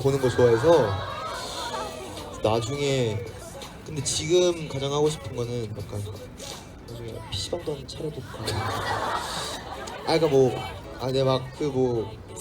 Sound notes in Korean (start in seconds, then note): 8.2 웃음